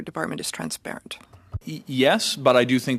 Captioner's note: speaking French